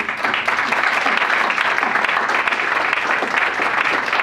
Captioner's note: audience applauds